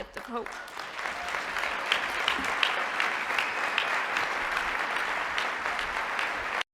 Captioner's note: applause